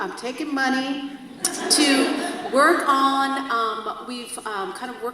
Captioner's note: audience laughs